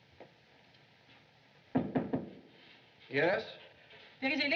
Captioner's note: knocking